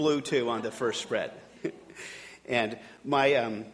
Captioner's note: audience laughing